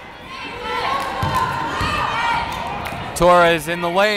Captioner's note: yelling